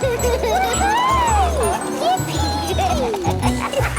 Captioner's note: giggling; laughing